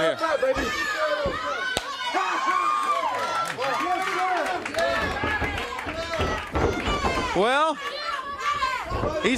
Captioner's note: crowd cheering